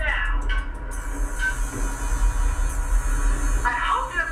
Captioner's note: engine sounds begin